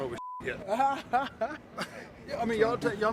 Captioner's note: man laughing